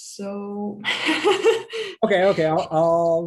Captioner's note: laughing